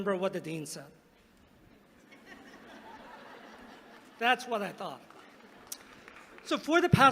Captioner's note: laughter